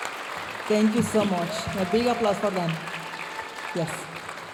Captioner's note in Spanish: aplausos de la audiencia; hablando en inglés; aplausos y vítores de la audiencia